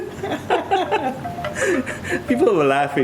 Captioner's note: laughing